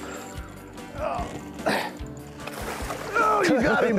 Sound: laughing; groaning

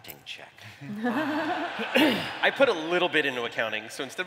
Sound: laughter

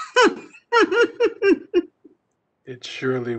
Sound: laughs

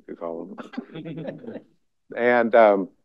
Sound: laughter

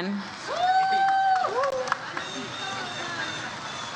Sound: audience cheers

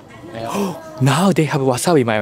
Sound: gasps

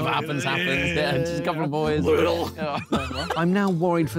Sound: laughs

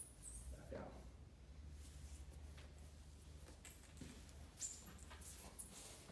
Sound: floor squeaks

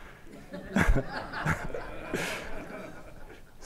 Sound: laughter

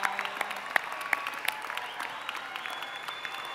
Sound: cheering and applause

